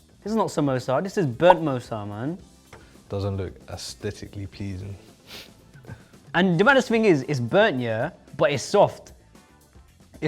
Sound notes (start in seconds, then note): 5.6 chuckles